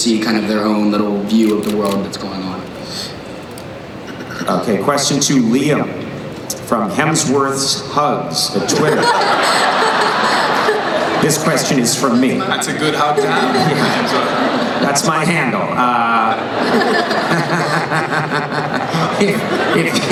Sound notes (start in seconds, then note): 15.9 laughing